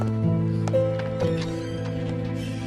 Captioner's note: door opening